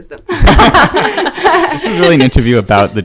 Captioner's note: all laughs